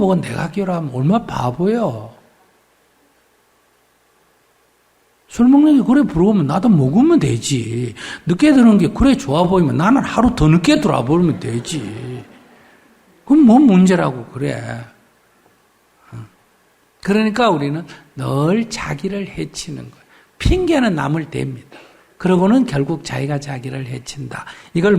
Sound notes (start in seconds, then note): 11.8 audience Laughter